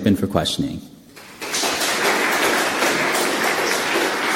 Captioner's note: loud applause